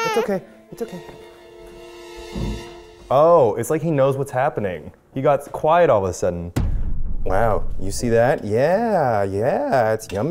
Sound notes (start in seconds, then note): 0.0 stops crying